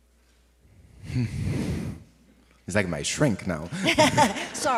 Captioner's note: olivier sighs; laughs